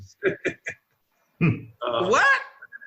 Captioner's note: laughing